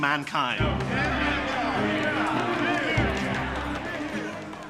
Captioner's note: delegates clamor